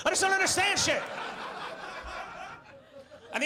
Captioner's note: audience laughs